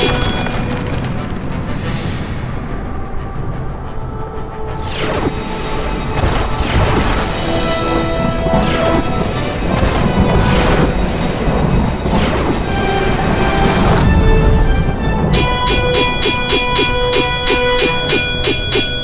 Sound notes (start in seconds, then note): 5.4 lasers blasting; 15.6 swords clanging